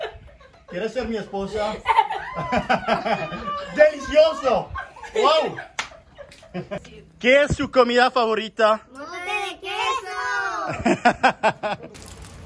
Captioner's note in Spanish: risa